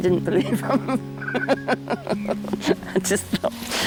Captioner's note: laughter